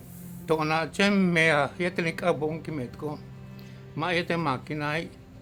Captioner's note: continues speaking in Mayan